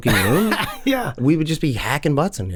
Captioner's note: Charlie laughs